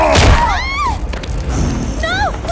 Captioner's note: frightened scream